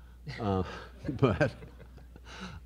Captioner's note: laughing